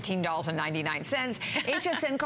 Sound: laughter

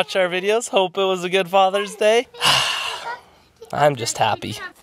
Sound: sighs

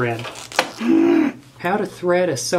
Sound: groans

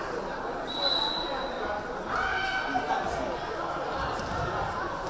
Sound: whistle blaring

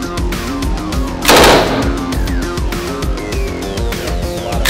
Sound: gun firing

